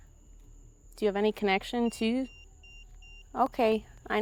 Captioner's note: EMF beeping